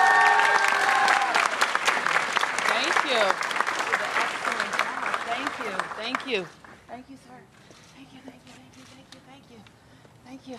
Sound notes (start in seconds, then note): 0.0 applause